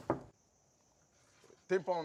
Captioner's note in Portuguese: batida na porta